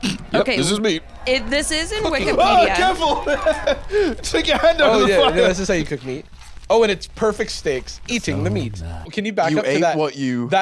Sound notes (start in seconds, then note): 1.8 laughs